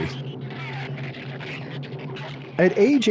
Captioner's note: shrews screech